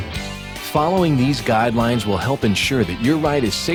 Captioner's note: voiceover